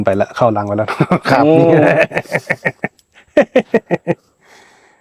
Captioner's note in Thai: เสียงหัวเราะ